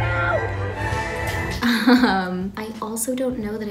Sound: upbeat music; laughs

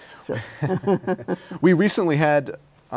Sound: laughs

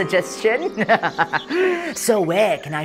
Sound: evil chuckle

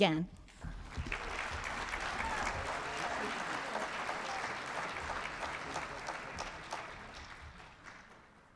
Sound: applause

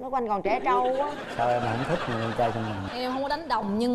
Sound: laughing

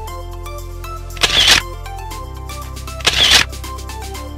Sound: camera shutters; camera shutters

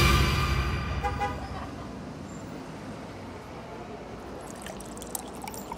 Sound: horn honking; kids laughing; water pouring

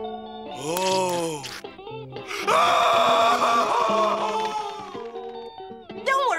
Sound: screaming

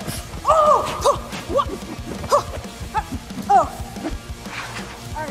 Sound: fighting sounds; rock music begins

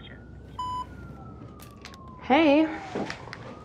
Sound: phone beeps

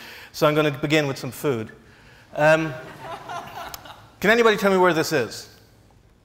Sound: laughs

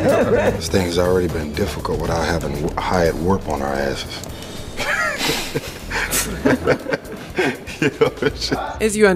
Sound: laughter

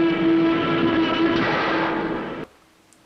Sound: crash

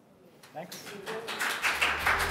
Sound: applause

